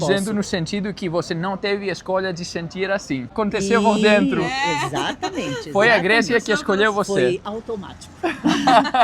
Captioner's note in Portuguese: risadas